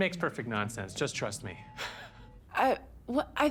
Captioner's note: chuckles softly